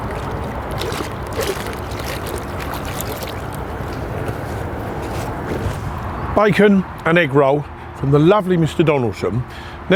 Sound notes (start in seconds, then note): 1.8 fish splashing